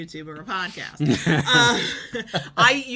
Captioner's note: laughs